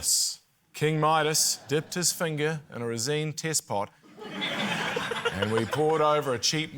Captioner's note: laughter